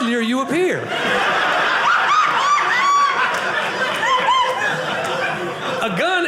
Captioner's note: audience laughing